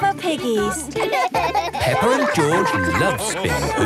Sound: both laugh

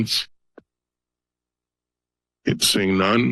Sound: pause

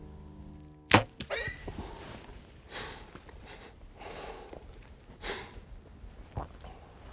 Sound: arrow clicks; hog screeches

